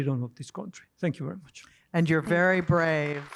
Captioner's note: applause